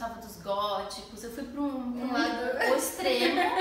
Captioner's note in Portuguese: risos